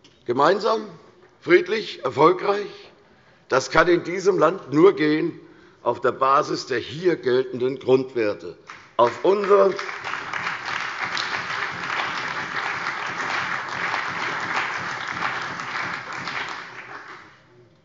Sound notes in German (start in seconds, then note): 8.6 Beifall bei der CDU und dem BÜNDNIS 90/DIE GRÜNEN